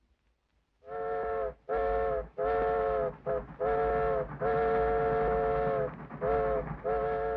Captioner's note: train horn whistles; train clacks